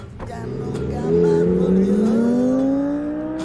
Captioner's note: putaran mesin